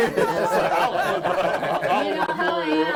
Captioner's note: all laughing